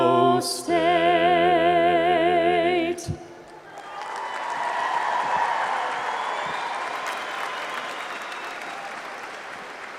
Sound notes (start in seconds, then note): 3.5 crowd cheering; 3.6 crowd applauding